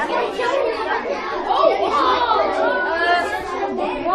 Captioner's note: student chatter